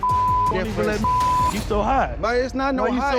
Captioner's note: beep